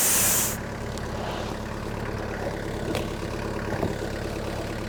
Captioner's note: engine rumbles